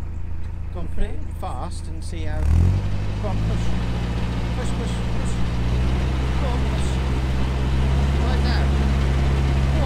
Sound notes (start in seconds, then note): 2.3 engine revs